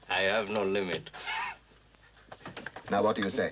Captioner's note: chuckles